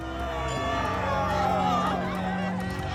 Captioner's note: they cheer